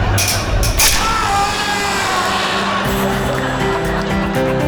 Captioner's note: multiple rat traps snapping shut; man screaming; encouraging piano music